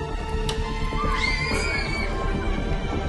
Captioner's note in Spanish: Niños gritando